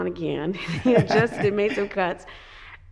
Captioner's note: both laughing